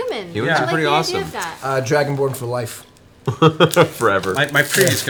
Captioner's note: laughs